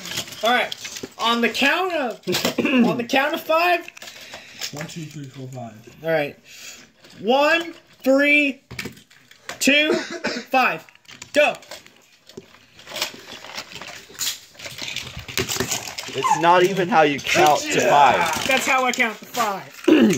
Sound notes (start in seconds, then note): 3.9 sarcastically